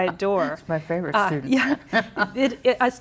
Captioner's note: chuckling